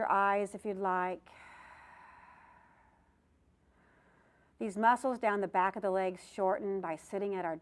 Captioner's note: breath sound